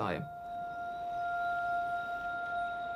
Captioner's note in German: Monoton anhaltender Ton